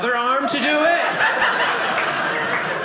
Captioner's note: audience laughing